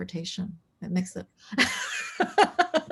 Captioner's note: laughs